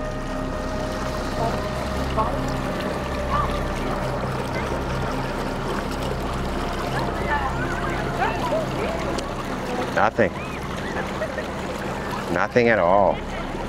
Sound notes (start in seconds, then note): 0.5 somber synth music; 0.5 water sloshing; 3.0 people chattering; 4.9 somber synth music; 4.9 water sloshing; 13.0 people laughing and chattering